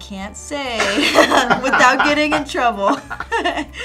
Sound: laughing

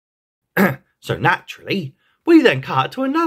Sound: ahem

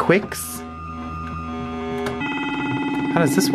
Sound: electronic beeping

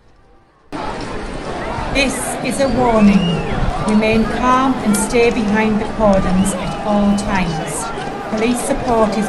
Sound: louder crowds

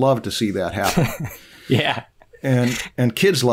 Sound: laughter

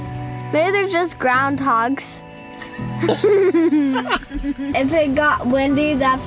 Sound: giggling

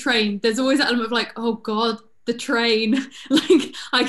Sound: laughing

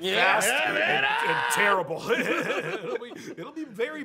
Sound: shrieks

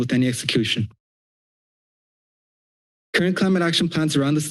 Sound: silence

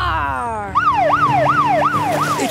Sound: siren wailing

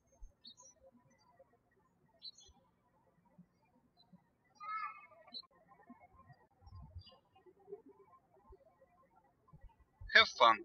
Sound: birds chirping

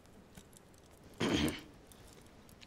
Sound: clears throat

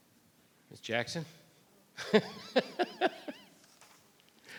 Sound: laughs

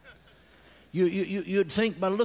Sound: congregation laughs

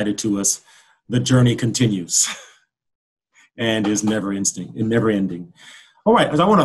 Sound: laughs

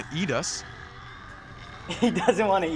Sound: zombies growling

